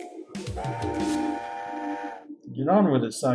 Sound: train whistle

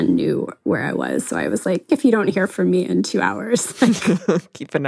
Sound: both laugh

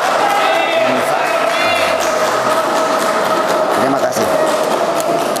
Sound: applause

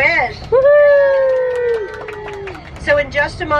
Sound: passengers cheer

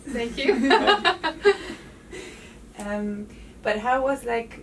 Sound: interviewer and the lady laughing

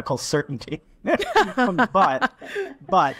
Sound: group laughing

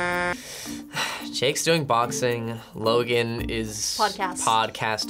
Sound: horn honks; sighs

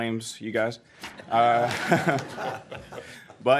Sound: laughter

